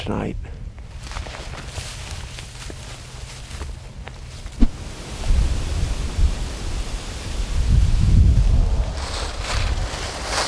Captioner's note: wind blowing